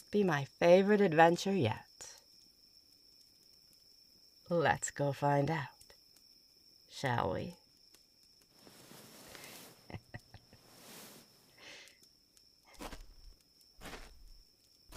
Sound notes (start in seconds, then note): 9.2 rustling sounds, chuckling; 13.8 footsteps